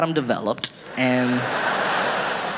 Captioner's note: audience laughing